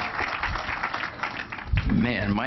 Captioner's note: applause